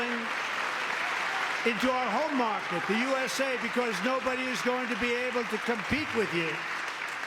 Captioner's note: applause